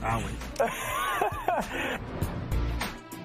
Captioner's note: laughs